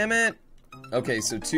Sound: death audio

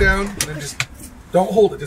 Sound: car button clicks

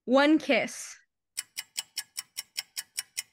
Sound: ticking nosies

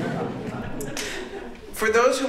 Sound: laughter

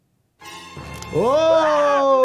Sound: dramatic music; Homer screaming; screaming

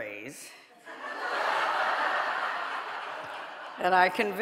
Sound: audience laughing

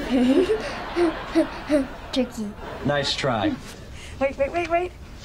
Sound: chuckles

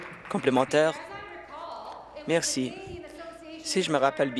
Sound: applause

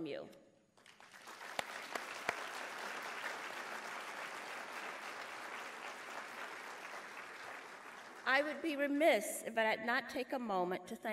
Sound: applause

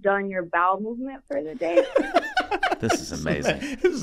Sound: Rob laughing

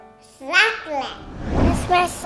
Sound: baby talk

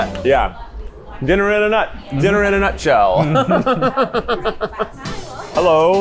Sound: laughs

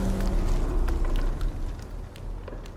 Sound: rushing water; water dripping

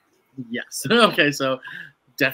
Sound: laughs

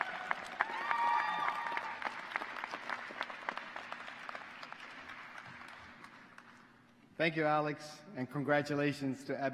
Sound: applause

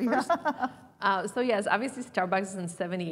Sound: laugh

